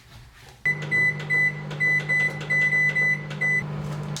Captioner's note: microwave beeping